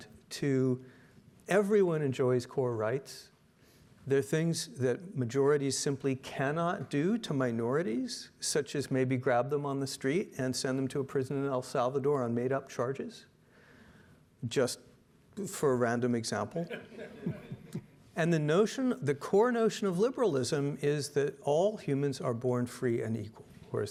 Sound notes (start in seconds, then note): 16.6 audience laughing